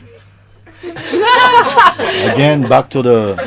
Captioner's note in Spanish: Risas